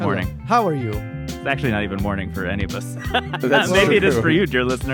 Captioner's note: laughs